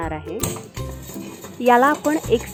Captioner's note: stirring sound